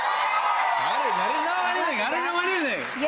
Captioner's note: cheers and applause